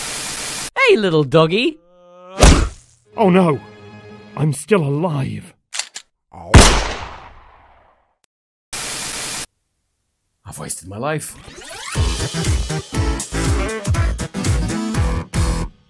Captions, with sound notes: Hey, little doggie! [wham] Oh no! .... I'm still alive. [gun cock] [gunshot] ... I've wasted my life. [bouncy music]